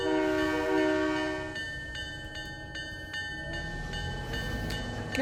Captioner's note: train whistle